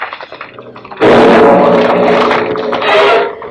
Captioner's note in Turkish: Nal sesleri